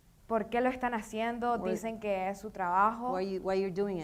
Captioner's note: speaking in foreign language